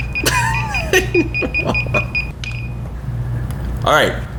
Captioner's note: electronic beeping; laughing